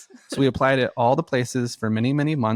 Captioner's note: laughs